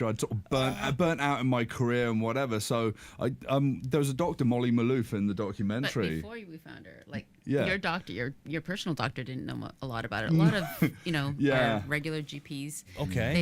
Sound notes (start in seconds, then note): 10.4 chuckles